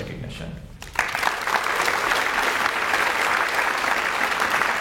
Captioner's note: audience applauds